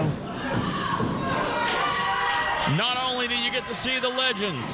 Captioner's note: crowd yelling